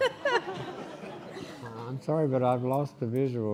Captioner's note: laughing